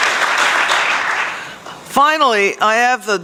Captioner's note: applause